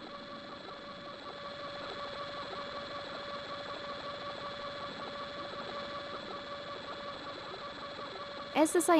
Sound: whirring electronic sound

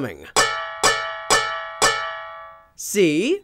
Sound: metal clanks

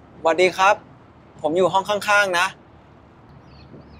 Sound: in Thai

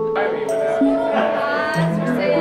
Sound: chattering

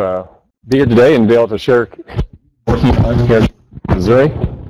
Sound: audio buzzes

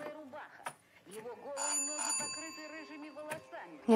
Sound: doorbell rings

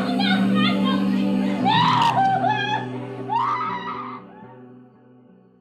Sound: screams

